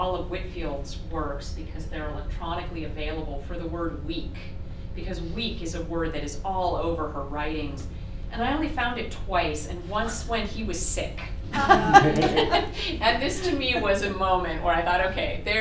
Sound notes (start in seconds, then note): 11.5 laughter